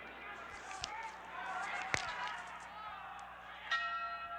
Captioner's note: cracks neck